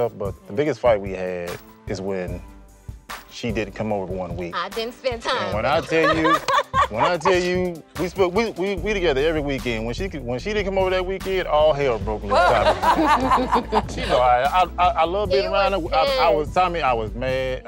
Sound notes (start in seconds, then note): 5.8 laughs; 12.3 laughter